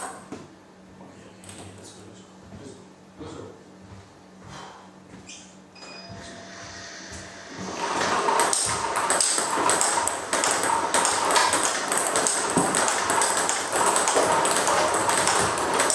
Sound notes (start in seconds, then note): 8.0 ball ping pong hitting